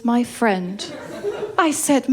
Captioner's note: laughter